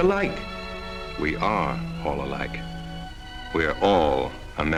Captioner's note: voiceover